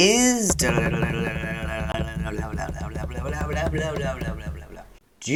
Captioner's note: weird vocal drumroll